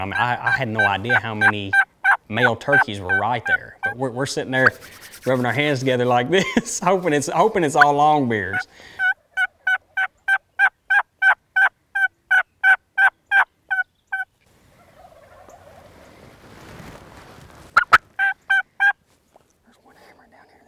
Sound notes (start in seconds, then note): 8.8 turkey calling; 14.6 several turkey gobbles; 17.7 turkey calls